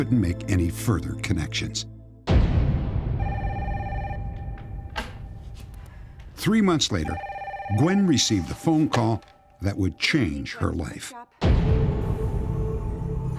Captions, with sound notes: make any further connections. [phone ringing] Three months later, Gwen received a phone call that would change her life. Hello?